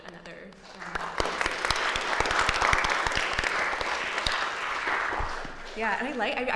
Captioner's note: applause